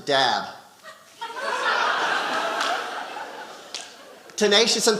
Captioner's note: audience laughing